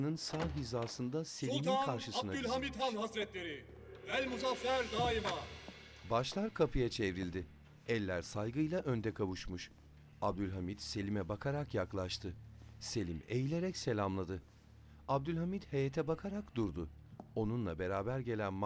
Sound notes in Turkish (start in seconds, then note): 0.2 Kapı açılma sesi; 8.1 Ayak sesi